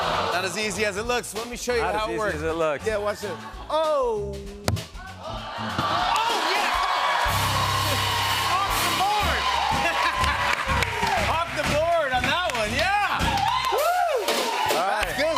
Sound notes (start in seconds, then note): 10.1 laughs